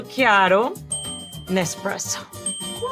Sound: bell dings

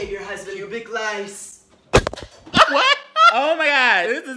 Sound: object thudding

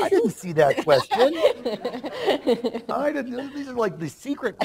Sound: laughter

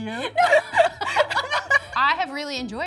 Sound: both laughing

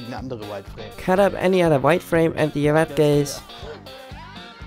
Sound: laughs

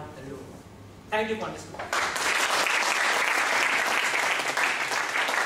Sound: applause

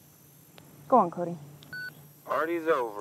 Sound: radio beeps

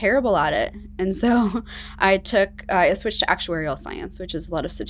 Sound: chuckling

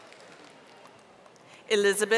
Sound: audience applauding

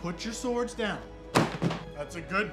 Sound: sword thuds

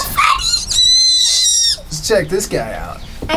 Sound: squeaks

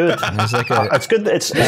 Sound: laughs boisterously

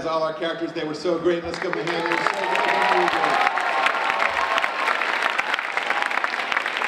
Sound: audience applauding

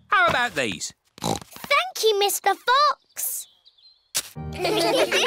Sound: snorts

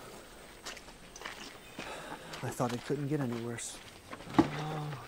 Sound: sigh

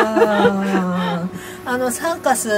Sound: laugher

